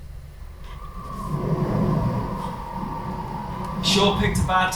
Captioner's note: wind howling